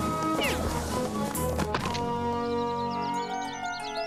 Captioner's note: crack